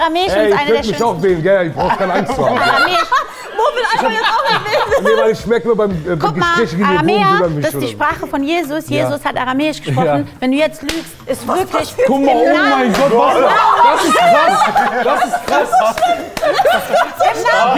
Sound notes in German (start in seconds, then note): 13.0 Lachen